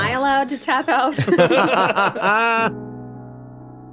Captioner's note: everyone laughs; light piano music